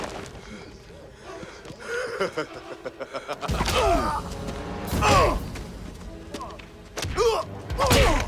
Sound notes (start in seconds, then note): 1.6 Knox laughs; 3.3 Knox and Dalton grunting; 6.9 blows thudding; 7.4 tense music continues